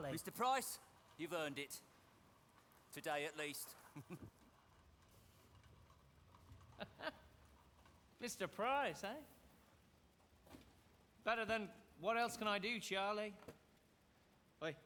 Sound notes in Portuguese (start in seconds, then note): 3.7 chuckles; 6.7 laughs